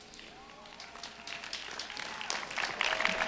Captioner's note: applause